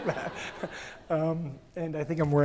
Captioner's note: attendees laugh